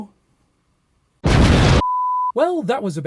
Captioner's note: explosion boom, followed by 1 kHz sine wave tone